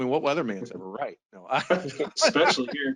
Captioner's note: both laughing